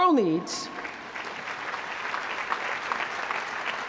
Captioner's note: applause